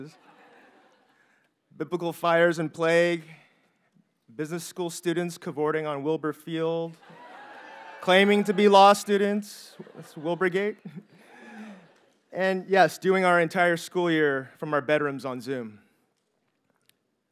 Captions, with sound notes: (audience members chuckle) Biblical fires and plague, business school students cavorting on Wilbur Field (audience members laugh) claiming to be law students. That's Wilburgate. And yes, doing our entire school year from our bedrooms on Zoom.